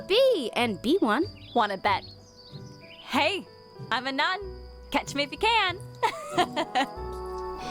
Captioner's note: laughter